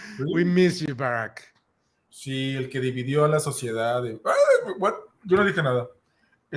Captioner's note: laughs